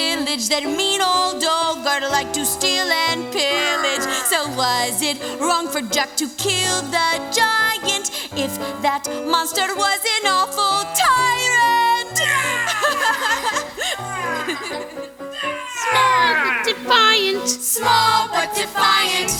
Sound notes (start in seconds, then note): 12.4 giant sounds & laughter